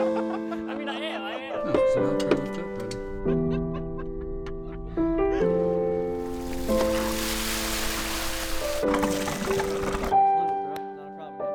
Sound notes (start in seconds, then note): 0.0 laughing; 6.0 water gushing